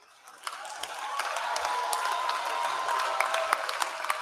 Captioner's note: applause